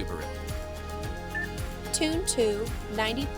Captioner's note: instrument panel beeps